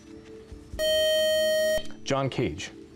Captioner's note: time-out buzzer